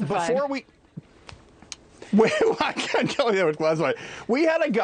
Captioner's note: laughter